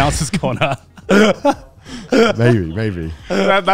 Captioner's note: laughing